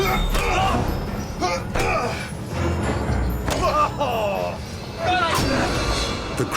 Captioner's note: crew shouting; grunting